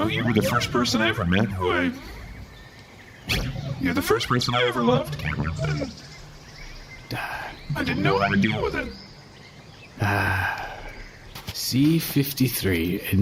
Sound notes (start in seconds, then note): 4.8 chuckles